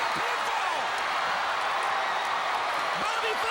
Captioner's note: crowd cheering